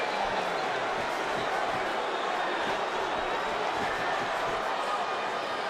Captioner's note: crowd murmuring continues